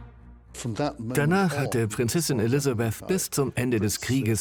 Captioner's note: voiceover